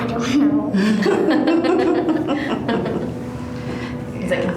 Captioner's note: everyone laughs